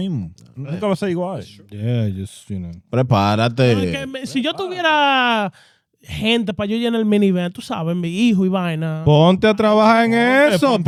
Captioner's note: speaking In Foreign Language